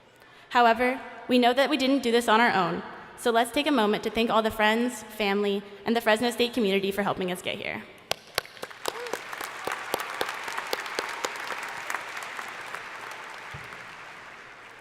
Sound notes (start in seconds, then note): 8.1 crowd applauding